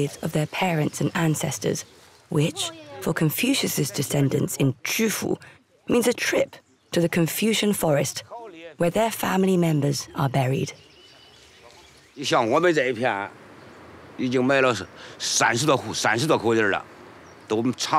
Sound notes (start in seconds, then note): 12.1 speaking Chinese